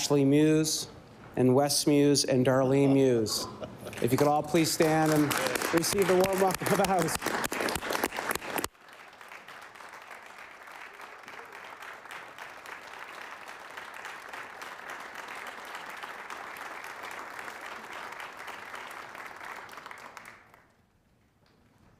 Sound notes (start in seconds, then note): 9.9 applause